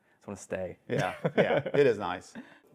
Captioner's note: laughs